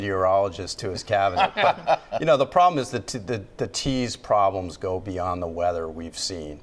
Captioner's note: laughter